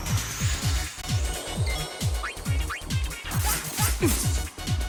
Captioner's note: upbeat disco music; power ups bleeping; sword slashing